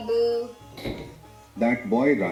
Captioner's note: car door closes